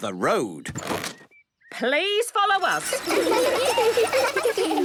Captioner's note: laughter